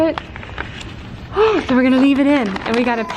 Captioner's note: sighing